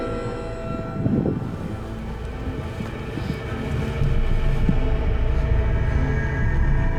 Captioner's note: wind howling; suspenseful music continues